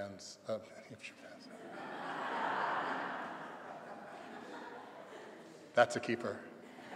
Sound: laughter

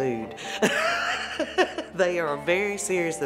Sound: laughing

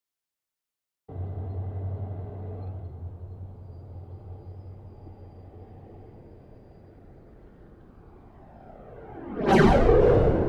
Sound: sound of aircraft fighter

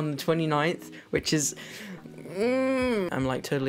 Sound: groans excitedly

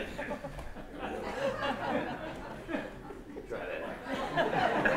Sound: laughter

